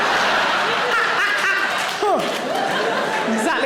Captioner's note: audience laughing; Sarah cackles